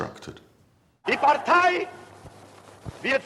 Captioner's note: speaking German